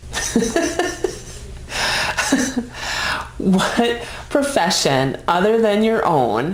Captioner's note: laughing